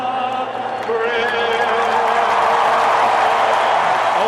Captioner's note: applause